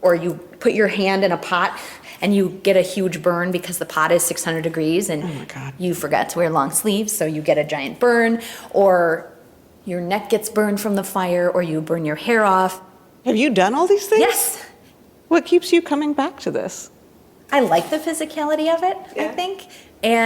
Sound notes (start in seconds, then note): none